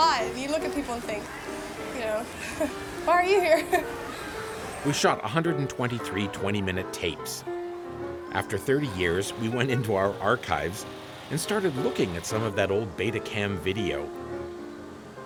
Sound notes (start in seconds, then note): 3.3 chuckles